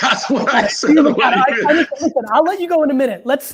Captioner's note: laughing